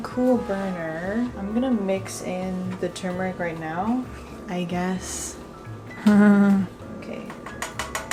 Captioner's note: laughs nervously